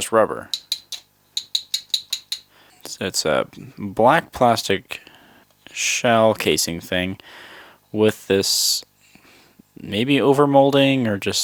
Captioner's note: taps on it, making a hard sound